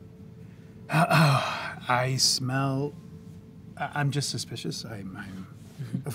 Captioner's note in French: se racle la gorge